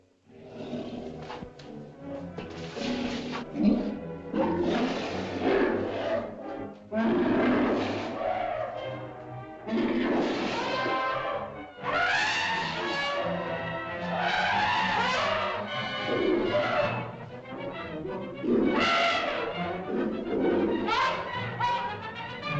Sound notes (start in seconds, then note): 0.2 mastodon grunts and growls; 0.2 suspenseful music; 6.9 mastodon bellows; 19.7 suspenseful music; 19.7 mastodon grunts and growls